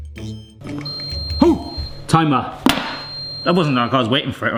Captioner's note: timer beeping